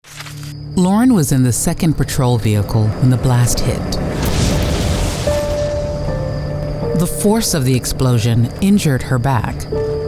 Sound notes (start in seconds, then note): 3.9 exploding; 4.3 dramatic music